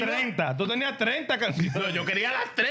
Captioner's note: speaking In Foreign Language